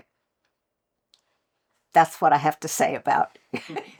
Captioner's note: laughter